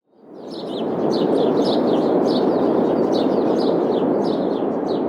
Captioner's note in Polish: śpiew ptaków